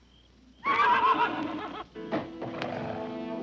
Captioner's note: Danny whinnying; pensive music